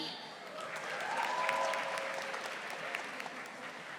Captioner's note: audience applauding